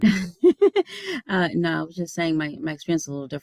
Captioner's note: giggles